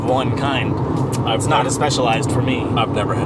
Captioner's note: smacks lips